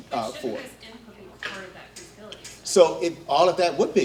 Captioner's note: faintly speaking